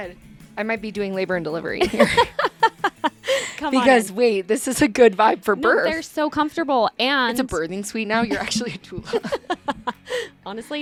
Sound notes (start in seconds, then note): 1.8 laughs; 8.2 laughs